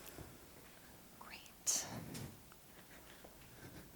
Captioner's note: whispers